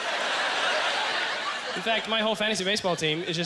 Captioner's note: audience laughter